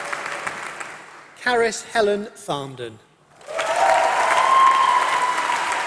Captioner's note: applause